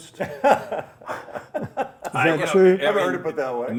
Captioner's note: laughter